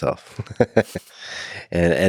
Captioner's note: Lex laughing